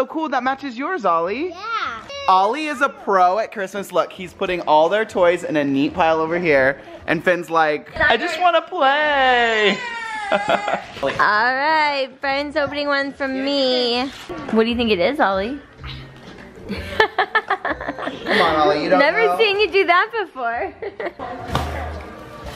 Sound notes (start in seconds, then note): 9.9 laughs; 16.7 laughs; 21.8 laughs